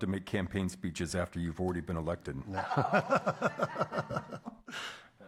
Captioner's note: room laughs